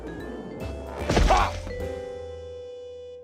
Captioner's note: grunts